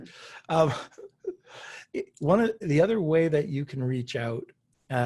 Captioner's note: chuckles